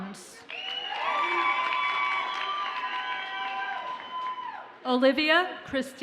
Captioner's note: audience cheers and applauds